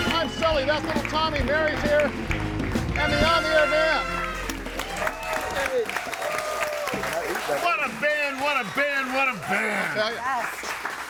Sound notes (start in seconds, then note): 4.9 crowd cheering and applauding